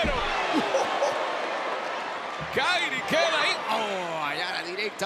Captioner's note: laugh